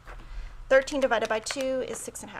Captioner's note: keys clicking